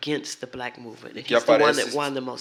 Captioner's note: speaking portuguese